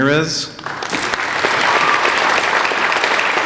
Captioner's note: applauding